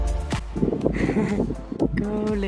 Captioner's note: man giggles